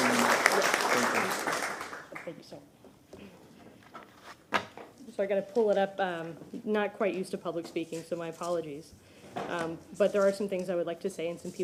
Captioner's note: applause